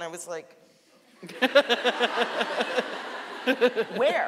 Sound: laughing; audience laughing

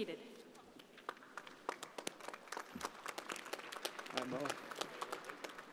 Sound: audience applauding

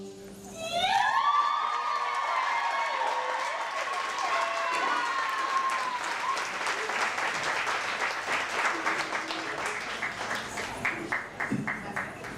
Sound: applause, cheers

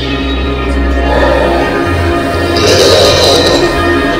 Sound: growling

